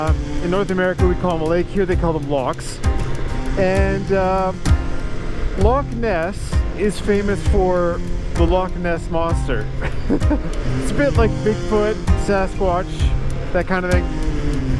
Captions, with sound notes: Uh, in North America we call them a lake Here they call them lochs And uh Loch Ness is famous for The Loch Ness Monster [Laughs] It's a bit like Bigfoot, Sasquatch That kind of thing